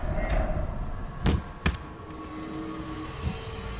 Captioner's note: thuds